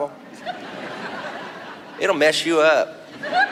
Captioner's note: audience laughs